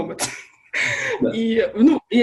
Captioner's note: laughs